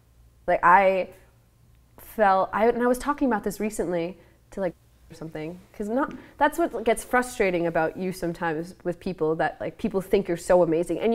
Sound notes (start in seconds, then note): none